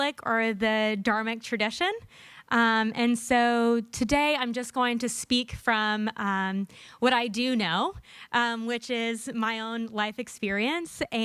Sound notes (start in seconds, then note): none